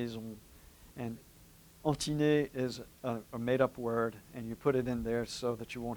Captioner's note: french